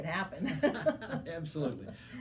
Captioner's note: laughing